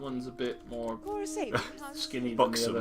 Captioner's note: NinjaFish laughs